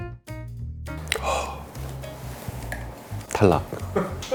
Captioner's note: A heavy sigh as wine #1 is set down